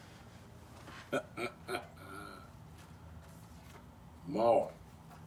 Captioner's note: chuckles